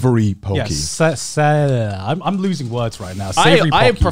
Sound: babbles

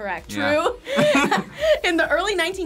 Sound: both laugh

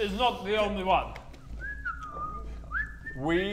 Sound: innocent whistling

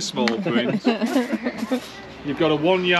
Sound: laughing

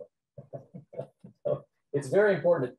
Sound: laughing

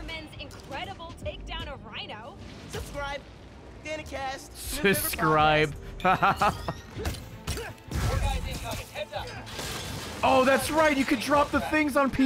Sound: laughs

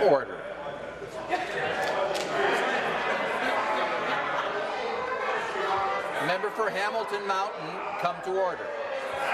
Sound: conversation din

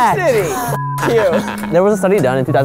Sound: laughs

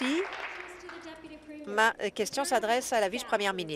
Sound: applause

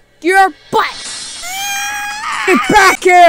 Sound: screaming

